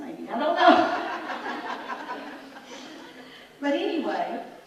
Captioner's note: audience laughs